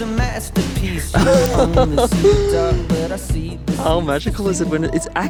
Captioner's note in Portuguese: rindo